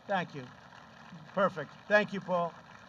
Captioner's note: applause